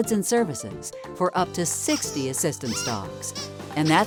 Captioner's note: squeaky toys squeaking